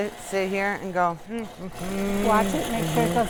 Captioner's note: humming